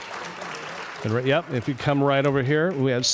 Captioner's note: applause